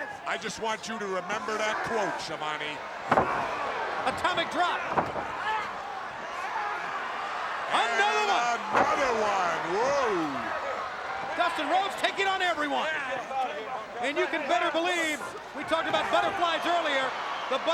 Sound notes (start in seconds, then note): 2.8 feet thudding; 3.0 body thumping; 5.9 crowd cheering